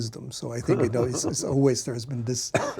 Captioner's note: laughs